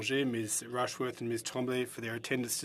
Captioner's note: speaking French